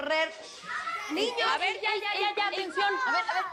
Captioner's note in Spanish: Algarabía de los niños